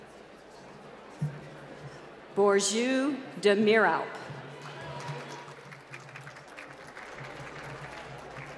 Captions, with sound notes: Borjeu Damira. (applause)